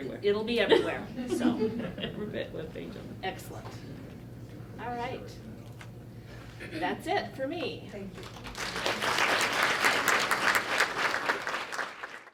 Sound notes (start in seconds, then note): 8.2 clapping